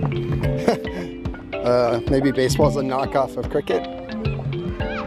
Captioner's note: laughs